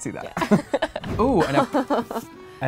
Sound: laughing

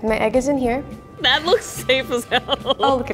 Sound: laughs

